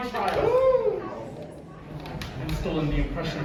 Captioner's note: audience murmuring